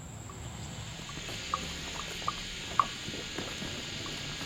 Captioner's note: cows grazing